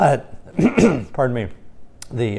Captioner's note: coughs